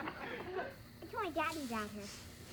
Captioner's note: girl over TV